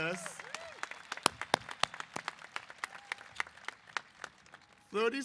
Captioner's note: applause